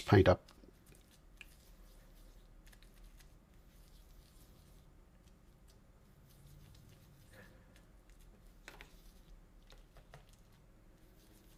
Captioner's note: silence